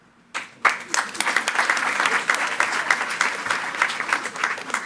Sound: attendees clapping

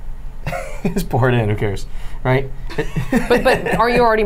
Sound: laughs; laughs

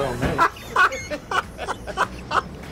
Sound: laughs

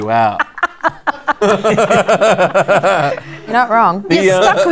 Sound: laughter

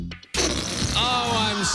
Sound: farting noise

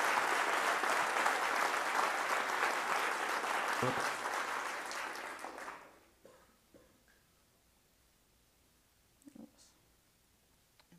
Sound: applause

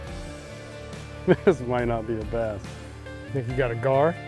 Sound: chuckles

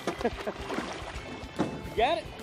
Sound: laughs

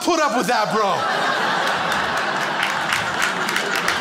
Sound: crowd laughs

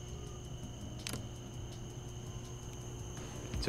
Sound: phone unlocking

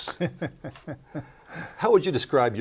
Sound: laughs

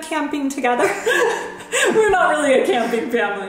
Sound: both laughing

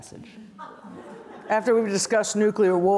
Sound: audience laughs

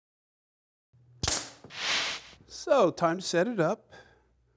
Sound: drill drilling

